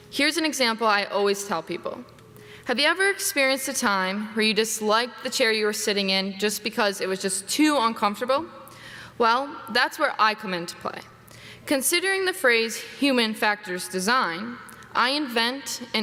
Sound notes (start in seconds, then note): none